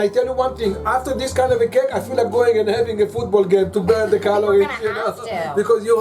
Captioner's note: laughs